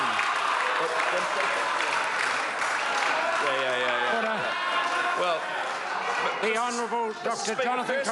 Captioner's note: members laugh and applaud